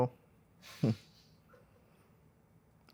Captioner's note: chuckles